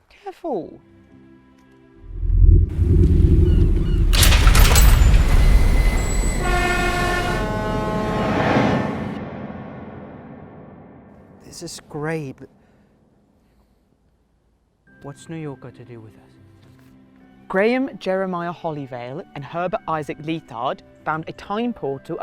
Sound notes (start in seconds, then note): 2.1 globe whirring; 3.0 birds squawking; 4.2 metal clanging; 4.5 horn blaring; 5.6 train screeching; 8.3 image whooshes